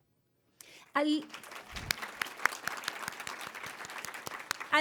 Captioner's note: applause